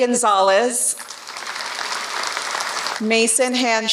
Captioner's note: applause